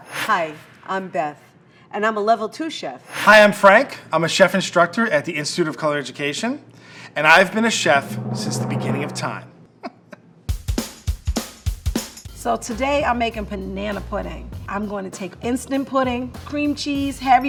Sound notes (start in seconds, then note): 7.3 drum roll; 9.8 laughing; 9.8 upbeat music